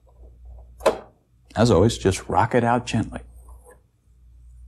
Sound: pop

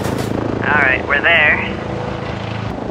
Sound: over comm

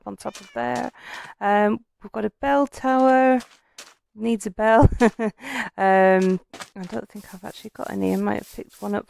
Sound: laughng

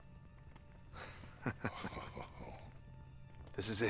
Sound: laughs

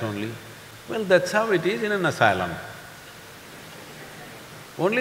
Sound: few laugh

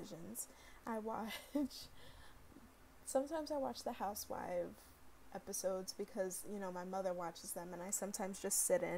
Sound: giggle

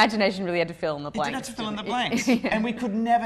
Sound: laugh

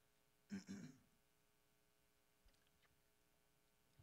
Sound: clearing throat

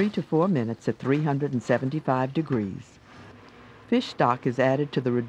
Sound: voiceover

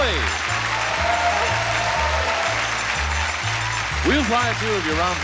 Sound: audience applauding; upbeat music

